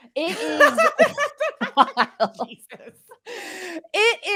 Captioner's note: laughs